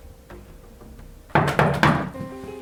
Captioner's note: door knocks